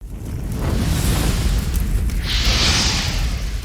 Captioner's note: fire whooshing